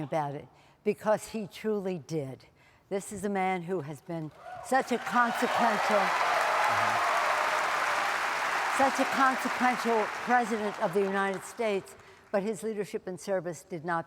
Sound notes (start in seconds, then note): 9.2 applause